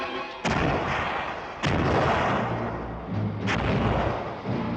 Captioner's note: explosions booming